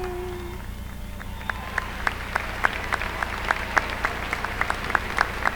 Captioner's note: applause